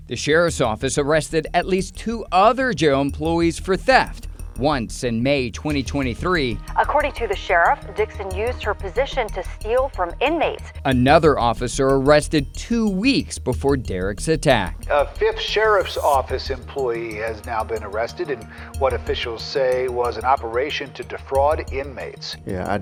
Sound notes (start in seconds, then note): 6.9 voiceover